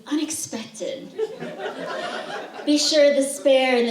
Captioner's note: laughter